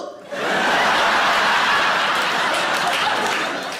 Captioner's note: audience laughing